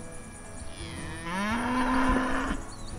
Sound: cow mooing

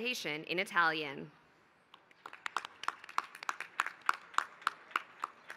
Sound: applause

